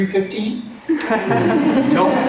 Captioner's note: laughter